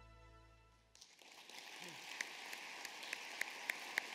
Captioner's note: applause